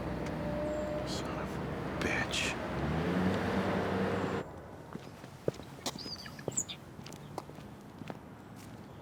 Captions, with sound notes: - Son of a bitch. (footsteps pattering)